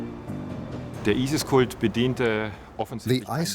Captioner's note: speaking in German